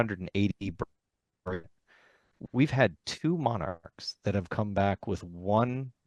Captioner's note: laughs